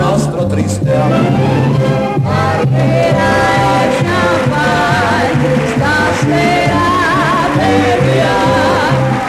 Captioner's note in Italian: Applauso